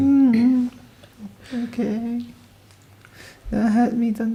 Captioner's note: whimpers